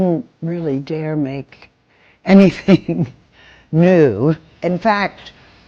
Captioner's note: chuckling